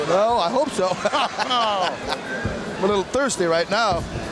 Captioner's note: both laughing